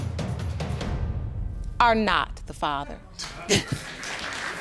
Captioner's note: both men exclaim; audience applauding